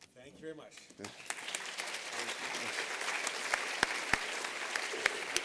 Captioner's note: applause